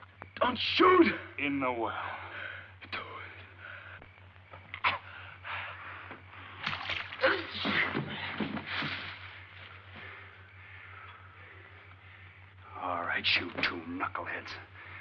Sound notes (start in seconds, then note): 6.6 water splashing